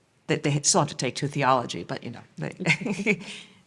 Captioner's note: laughs